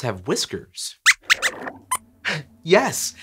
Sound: squeaks squeaks

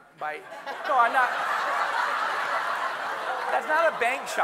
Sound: everyone laughing

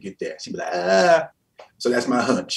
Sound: shouts

